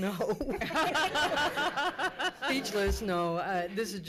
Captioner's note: laughs